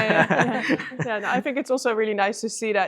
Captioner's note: group laughs